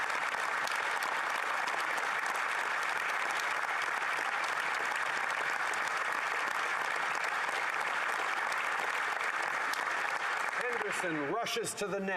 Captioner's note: applause